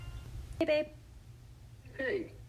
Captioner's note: ring Tone